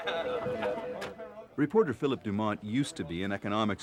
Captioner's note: phones ringing